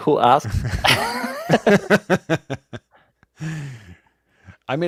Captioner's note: laughter